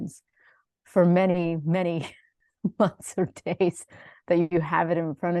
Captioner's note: chuckles